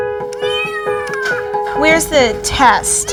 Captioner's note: kitten mews